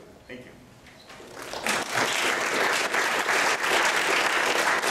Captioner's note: applause